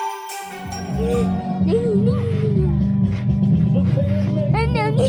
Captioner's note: murmuring